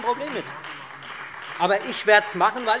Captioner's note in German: Beifall Freie Demokraten